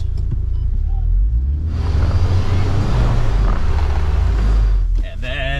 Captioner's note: car engine revving